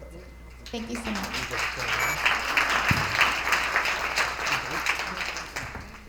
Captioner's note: attendees applauding